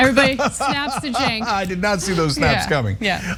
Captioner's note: laugh